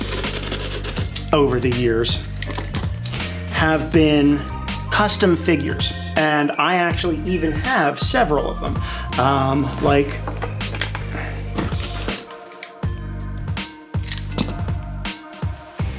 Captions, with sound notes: [box cutting sounds] over the years [box cutting] have been custom figures. And I actually even have several of them. Um like... [sounds of plastic figures moving around the desk]